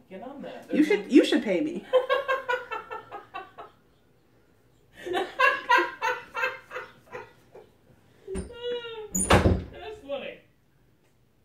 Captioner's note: wild laughter